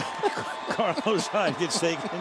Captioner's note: laughter